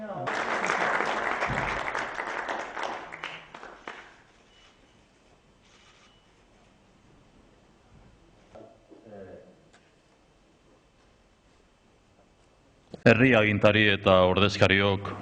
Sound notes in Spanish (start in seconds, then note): 0.0 aplausos